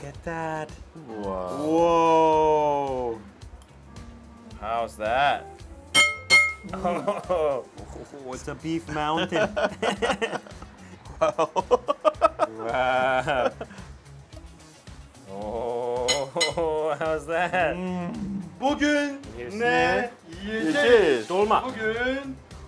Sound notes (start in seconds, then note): 6.1 clattering; 9.2 laughing; 18.8 speaking foreign language